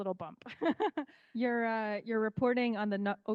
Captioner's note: laughing